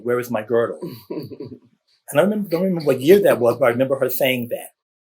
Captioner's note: laughter